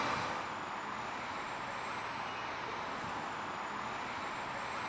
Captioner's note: traffic humming